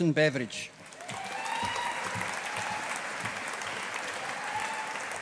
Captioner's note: audience applauding